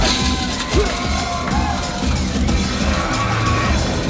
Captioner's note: crowd cheering